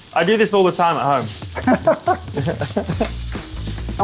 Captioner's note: laughing